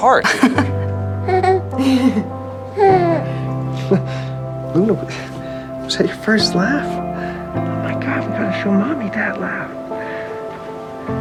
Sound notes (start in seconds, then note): 0.2 Helen and Luna laugh; 3.8 Max laughs